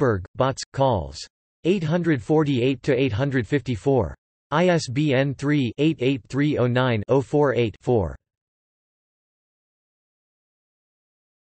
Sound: in German

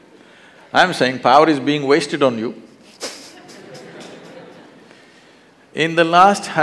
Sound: laughter

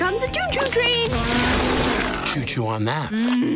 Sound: spitting

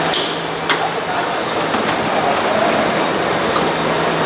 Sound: train doors opened

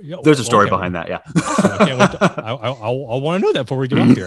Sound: laughing

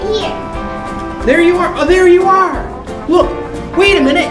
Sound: voiceover

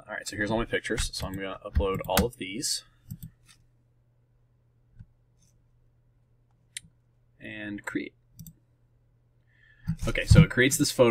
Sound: click

